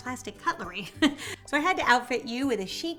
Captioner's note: chuckling